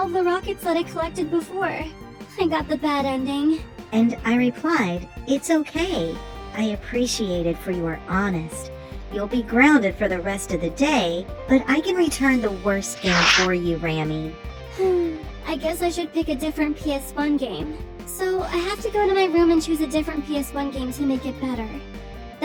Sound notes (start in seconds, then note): 16.1 sigh